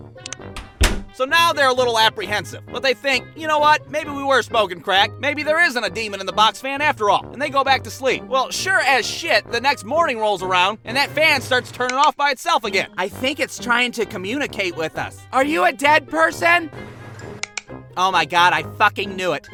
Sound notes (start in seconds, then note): 0.2 clicks the light switch and closes the door; 17.2 click